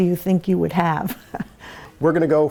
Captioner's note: laughs